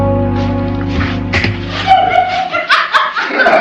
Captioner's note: laughter